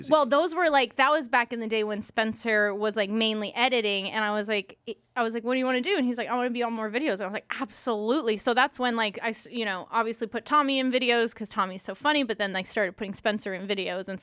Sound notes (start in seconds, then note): none